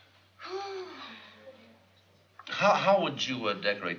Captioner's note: sighs